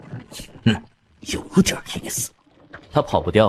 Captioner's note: chuckles